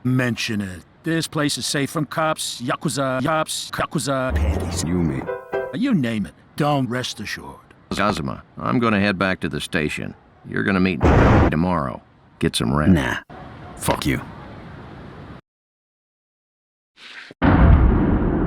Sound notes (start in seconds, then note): 11.0 convenient thunder